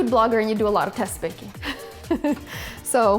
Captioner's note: laughs